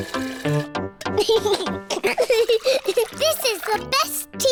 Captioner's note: giggles